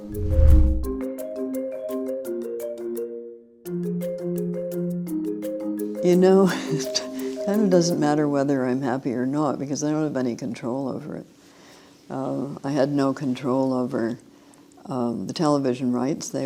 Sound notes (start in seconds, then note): 0.0 bright upbeat music; 6.5 laughs